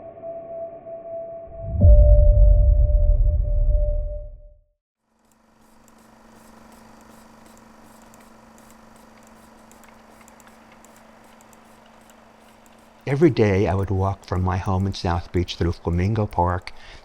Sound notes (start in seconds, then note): 0.0 ambient music; 4.5 film reel whirring